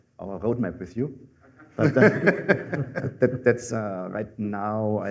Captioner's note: laughter